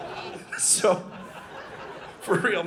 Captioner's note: audience laughing